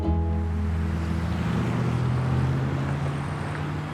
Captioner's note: traffic rumbles